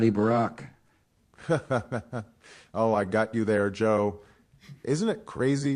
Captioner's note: laughter